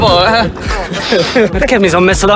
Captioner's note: laughter